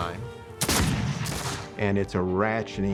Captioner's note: gunfire